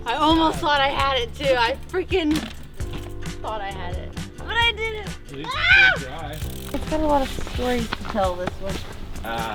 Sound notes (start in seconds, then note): 5.4 shouts